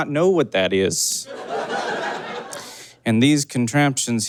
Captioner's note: audience laughs